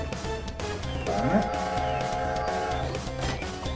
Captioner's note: steam whistle